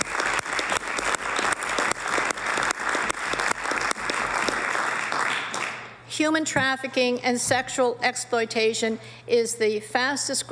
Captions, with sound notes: TISSUE. THIS LEGISLATION, MR. SPEAKER, IS THE FIRST OF ITS KIND AMERICA. [APPLAUSE]